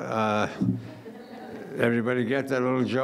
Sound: laughing

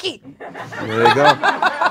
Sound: audience laughs

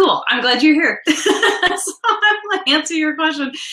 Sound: laughs

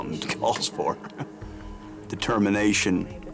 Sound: chuckles

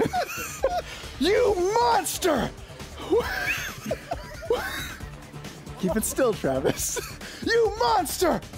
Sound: laughter

